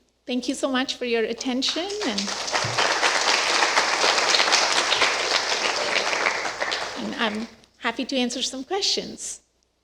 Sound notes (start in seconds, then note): 1.4 applause